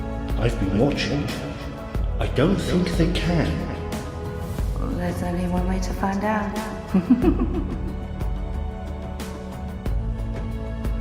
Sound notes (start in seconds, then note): 6.9 chuckling